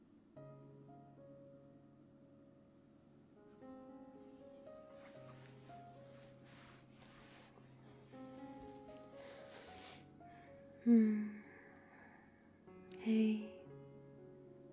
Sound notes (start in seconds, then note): 4.2 shuffling in the bed